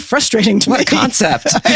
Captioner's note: laughing